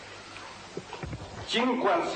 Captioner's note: static